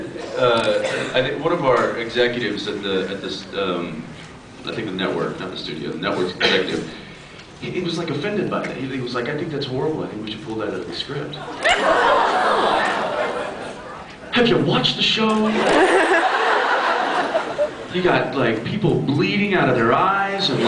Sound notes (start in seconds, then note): 11.6 expressions of surprise and laughs; 15.6 laughs